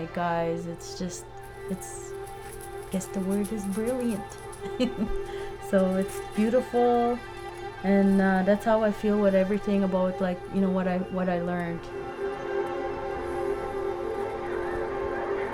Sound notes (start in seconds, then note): 4.5 chuckling